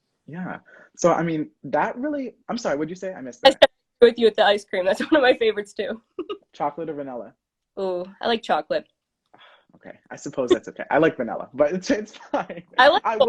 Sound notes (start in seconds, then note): 3.3 faintly speaking; 12.0 laughs